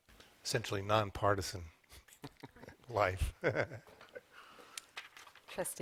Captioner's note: laughter